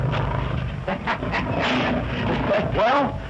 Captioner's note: laughs